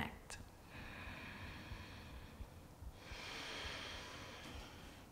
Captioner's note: deep breathing